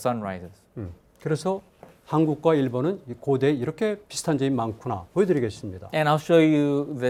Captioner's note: speaking in Korean